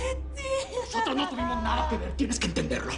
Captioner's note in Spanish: Sollozos